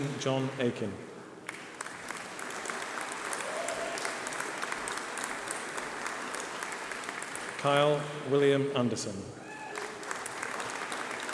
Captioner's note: applause